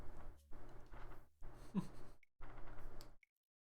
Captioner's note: chuckles